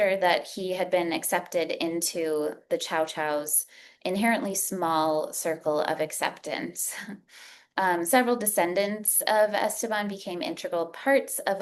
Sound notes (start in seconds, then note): 7.2 chuckles